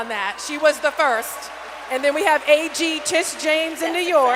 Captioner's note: applause